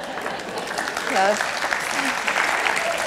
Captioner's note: applause